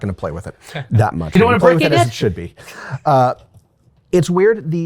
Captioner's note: both chattering